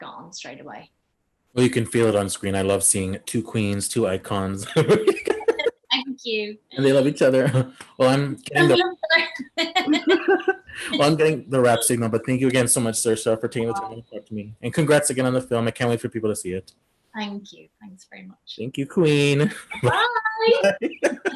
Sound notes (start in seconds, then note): 4.9 laughs